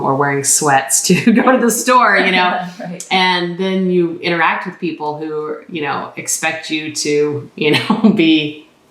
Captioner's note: laughter